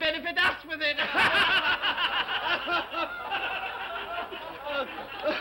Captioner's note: all laugh